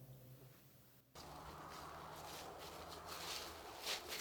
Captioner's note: leaves rustling